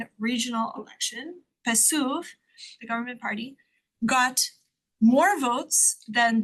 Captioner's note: speaks Spanish